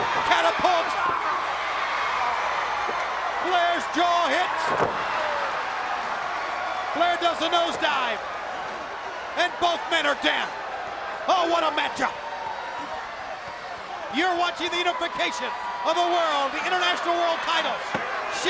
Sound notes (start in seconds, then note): 0.0 Ric exclaiming; 4.8 Flair thudding on ring